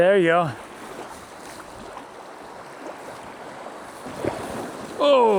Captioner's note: water splashing